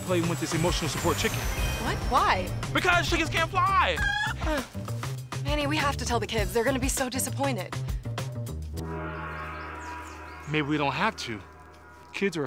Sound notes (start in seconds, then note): 4.0 chicken squawks; 8.8 gong chimes